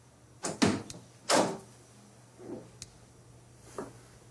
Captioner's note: door opens